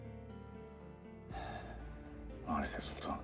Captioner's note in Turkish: Nefes sesi